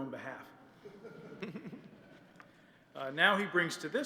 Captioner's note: laughter